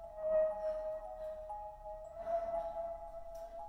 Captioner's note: Leona pants